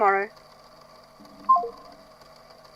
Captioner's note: beep of phone hanging up